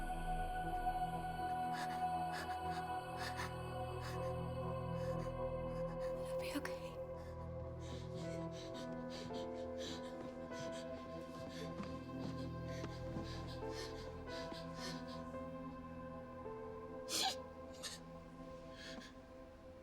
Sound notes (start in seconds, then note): 7.8 Izzie panting; 8.2 gasping; 17.0 Izzie sobbing